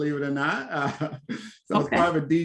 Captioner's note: laughs